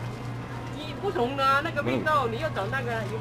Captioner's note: mandarin